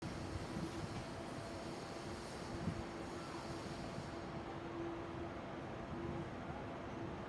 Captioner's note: ambient street sounds